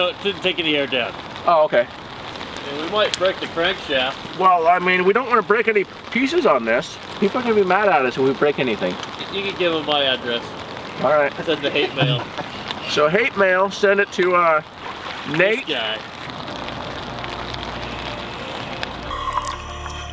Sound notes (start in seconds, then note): 12.8 laughing; 17.0 soft piano music